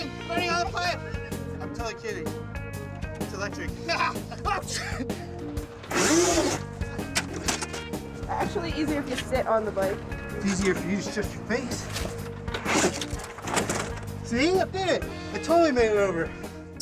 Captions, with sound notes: Burning on the pipe. I'm totally kidding. It's electric. [LAUGHTER] It's actually easier if you sit on the bike. It's easier for you to shush your face. See, I did it. I totally made it over.